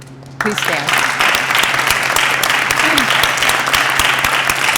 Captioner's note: applause